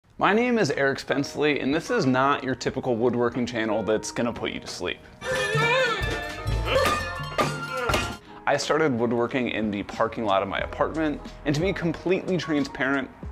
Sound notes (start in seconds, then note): 5.2 moaning; 5.3 pots and pans banging